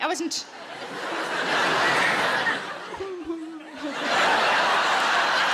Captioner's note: audience laughs; audience laughs harder